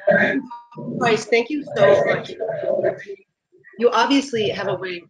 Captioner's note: mic interference